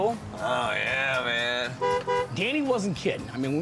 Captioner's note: honks horn